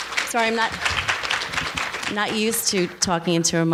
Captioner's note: applause